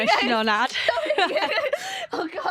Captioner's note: laughter